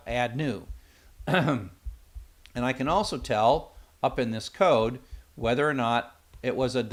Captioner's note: cough